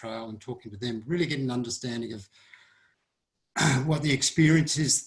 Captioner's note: clears throat